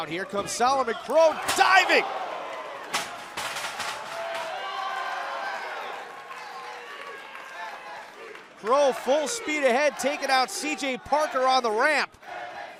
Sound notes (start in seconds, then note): 5.7 cheers & applause; 12.5 fans chanting